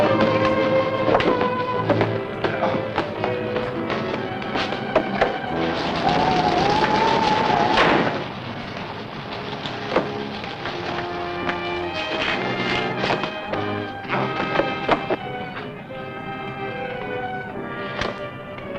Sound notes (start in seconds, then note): 6.2 rain pattering; 6.2 wind howling; 11.2 pensive music